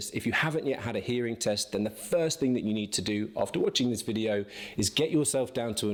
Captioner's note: none